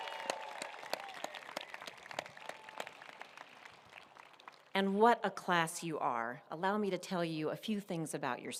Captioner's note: applause